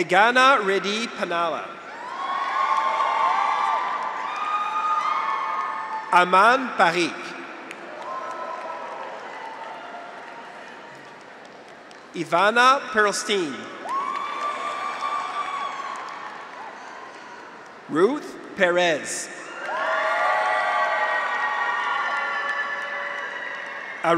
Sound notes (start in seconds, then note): 1.8 graduates cheer; 2.1 audience applauds; 7.7 graduates cheer; 7.8 audience applauds; 13.7 graduates cheer; 13.8 audience applauds; 19.0 graduates cheer; 19.5 audience applauds